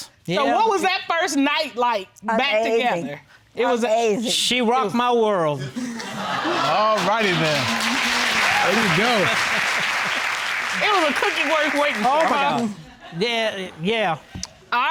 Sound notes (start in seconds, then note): 6.3 audience exclaiming; 6.8 all applauding; 9.6 chuckling